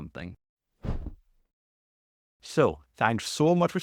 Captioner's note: graphics whooshing